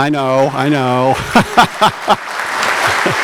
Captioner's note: laughter; applause